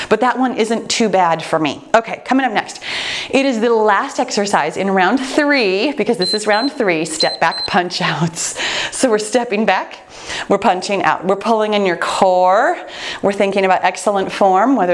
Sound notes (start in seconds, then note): 7.0 timer beeps